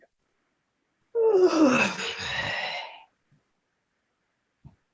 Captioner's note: person yawning